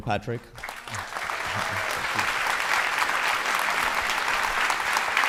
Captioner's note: audience applauding